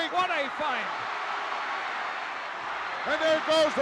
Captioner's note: crowd cheering